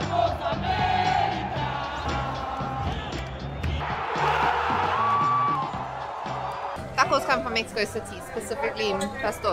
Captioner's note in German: Chanting